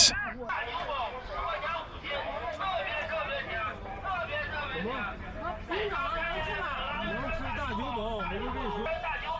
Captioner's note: loudspeaker looping